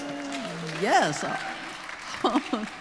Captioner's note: audience applause